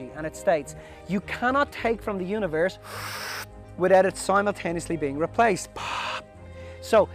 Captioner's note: breathes in; breathes out